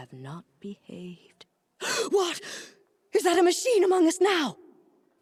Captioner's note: gasp